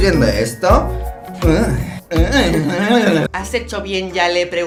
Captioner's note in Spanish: Sonidos sensualones